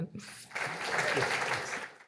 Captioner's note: applause